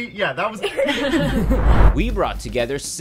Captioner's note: laughter